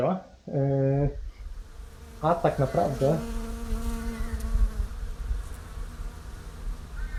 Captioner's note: buzzing in the background